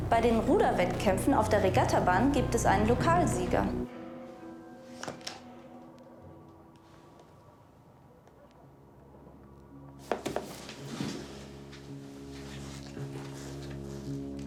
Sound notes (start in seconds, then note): 7.4 silence